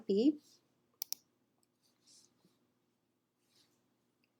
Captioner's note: mouse clicking